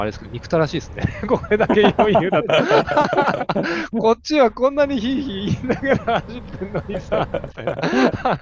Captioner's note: laughs